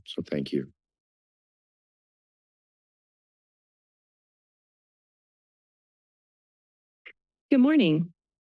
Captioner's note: silence